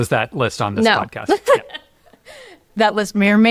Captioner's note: laughs